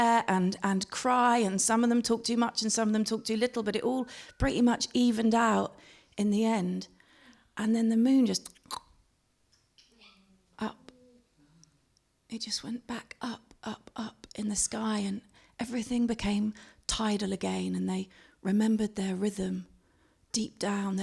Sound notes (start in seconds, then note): 8.4 clicks her tongue